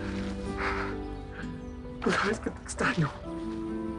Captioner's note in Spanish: Sollozos